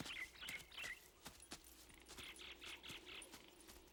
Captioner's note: birds chirping